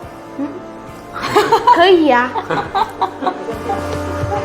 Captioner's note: hahaha